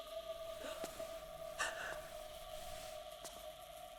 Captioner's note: Julie whimpering